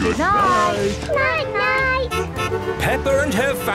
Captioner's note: honking